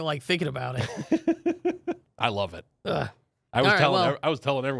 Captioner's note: laughs